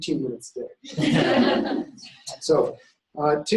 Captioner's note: laughter